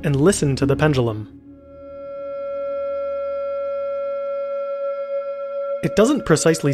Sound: computer Generated Sound

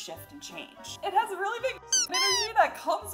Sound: squeak

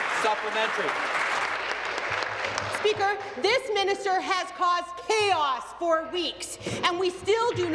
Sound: applause

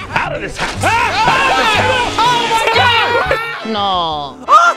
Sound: screaming

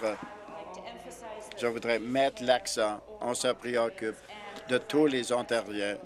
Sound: applause

